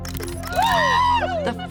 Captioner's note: camera clicking sounds; cheering